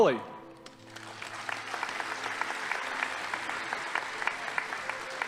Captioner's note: audience applauding